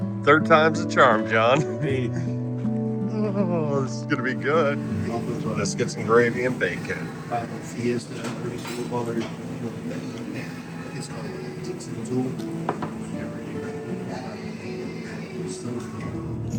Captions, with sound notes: Third time's a charm, Jon. [Laughter] This is gonna be good. Biscuits and gravy and bacon.